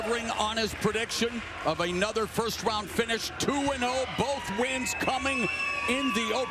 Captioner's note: cheers and applause